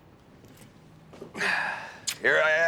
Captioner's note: Nick sighs